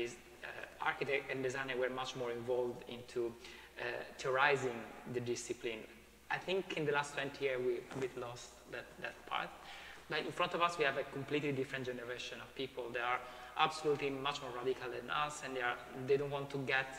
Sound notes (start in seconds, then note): none